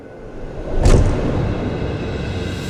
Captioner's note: thud